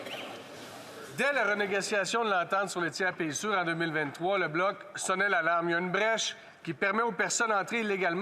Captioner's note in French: voix de l'interprète